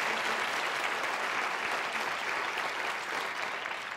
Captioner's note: applause